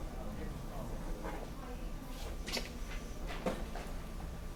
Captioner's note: people chattering